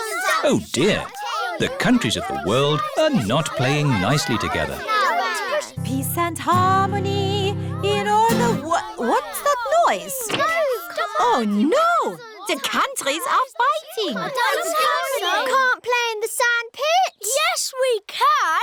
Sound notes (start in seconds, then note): 5.8 commotion